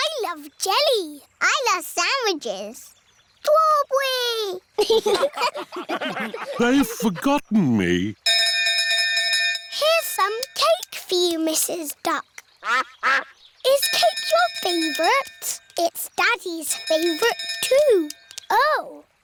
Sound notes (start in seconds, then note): 4.7 laughter; 12.6 quacking; 16.6 bell dinging